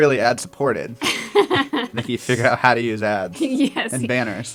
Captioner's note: laugh